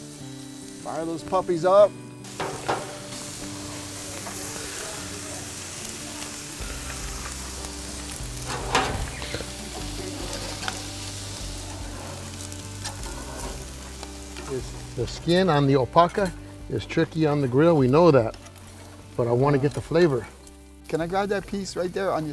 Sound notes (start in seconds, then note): 3.7 grilling sounds